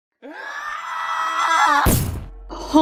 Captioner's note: Gelatin and Barf Bag screaming